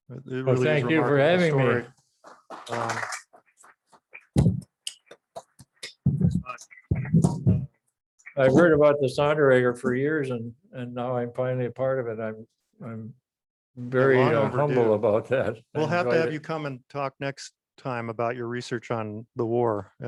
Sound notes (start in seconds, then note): 2.3 audience applauds; 4.5 applauds